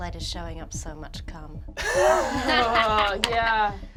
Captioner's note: laughing